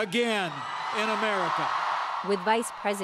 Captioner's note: cheering and applause